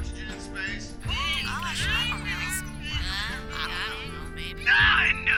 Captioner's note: away from mic; background clamoring